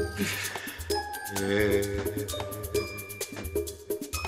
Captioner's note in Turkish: Ağlama sesi